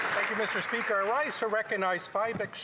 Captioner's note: applause